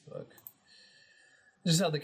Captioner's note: mouse clicking